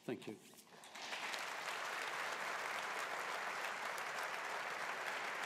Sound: audience applauding

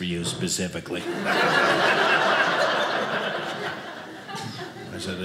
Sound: audience laughing

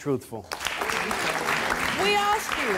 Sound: applauding

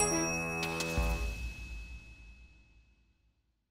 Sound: bright music; bell dings

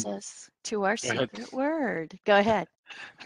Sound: mumbles

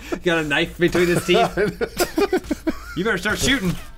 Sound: laughing

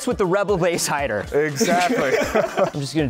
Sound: laughter

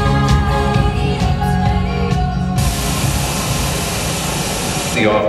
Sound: random sounds from tv and static from channels changing

